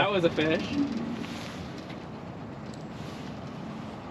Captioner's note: groaning